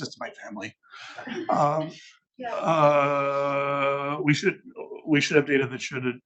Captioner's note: attendees laughing